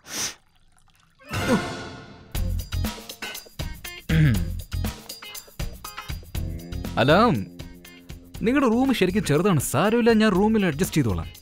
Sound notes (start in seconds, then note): 0.4 Glass sound; 4.0 Clearing throat